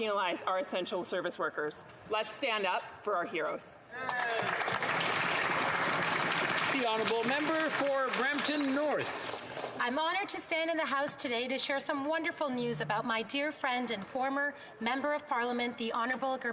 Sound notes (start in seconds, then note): 7.7 some Applause